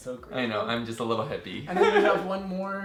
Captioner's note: laughs